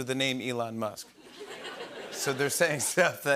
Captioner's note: laughter